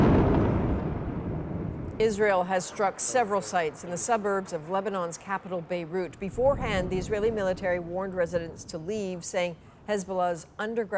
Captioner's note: explosions